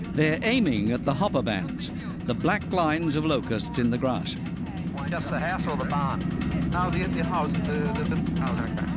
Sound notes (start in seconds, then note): 5.1 man on radio